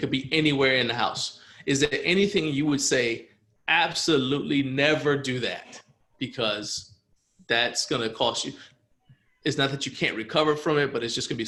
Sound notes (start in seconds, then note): none